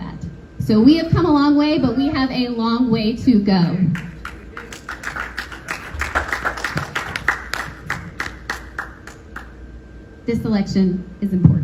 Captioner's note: applause